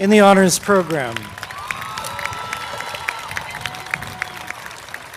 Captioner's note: applause